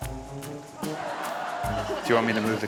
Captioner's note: laughter